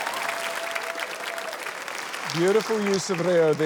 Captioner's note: cheering, applause